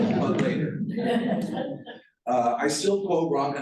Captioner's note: laughter